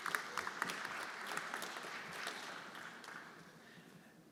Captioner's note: everyone applauding